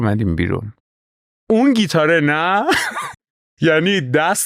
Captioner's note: laughs